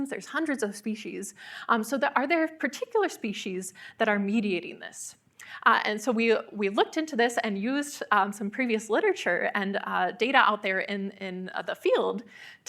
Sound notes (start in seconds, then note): none